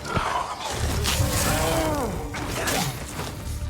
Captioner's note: zombies growling